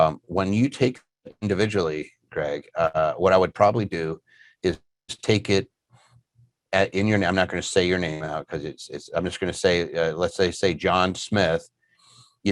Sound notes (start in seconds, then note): none